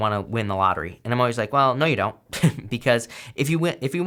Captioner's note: chuckles